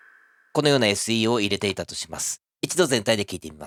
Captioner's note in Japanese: 効果音